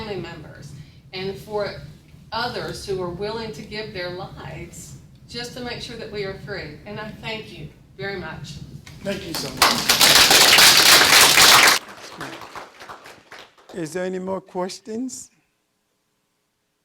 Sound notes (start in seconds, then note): 10.7 audience applause